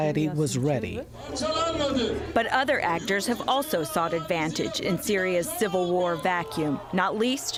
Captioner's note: voice-over